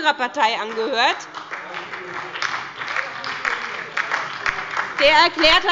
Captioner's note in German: Beifall bei der SPD